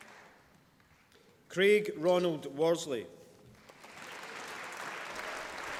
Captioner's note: applause